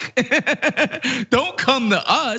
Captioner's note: laugh